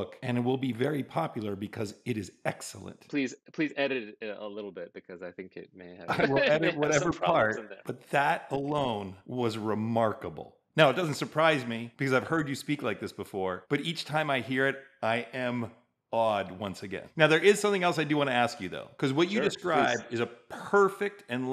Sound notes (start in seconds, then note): 5.9 laughing